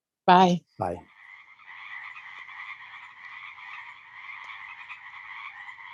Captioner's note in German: Froschchor